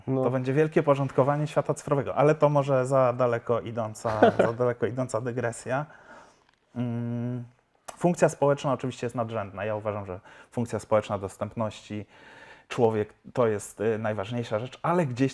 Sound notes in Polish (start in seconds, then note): 4.0 śmiech